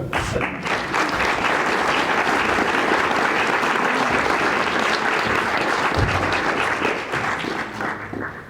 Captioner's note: applause